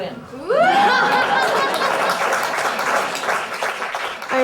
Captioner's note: applauses